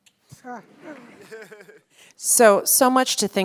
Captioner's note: audience laughs